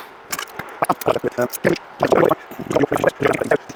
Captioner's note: blowing